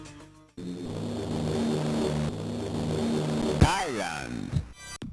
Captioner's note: plane sound